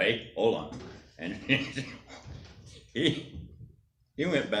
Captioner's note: laughs